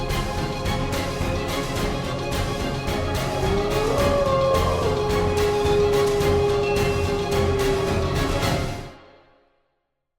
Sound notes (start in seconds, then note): 3.4 wolf howling